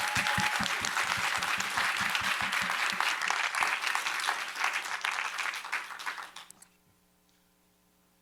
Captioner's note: applause